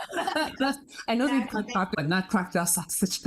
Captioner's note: laugh; laughing; laugh